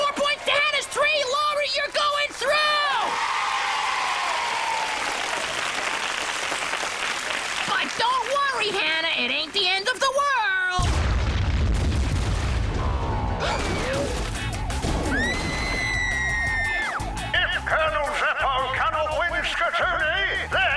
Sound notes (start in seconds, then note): 15.0 scream